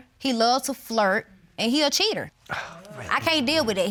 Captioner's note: scoffs